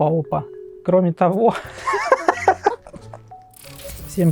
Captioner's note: laughs